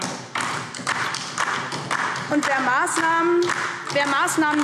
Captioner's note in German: Beifall DIE LINKE und vereinzelt AfD